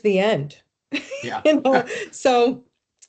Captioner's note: laughing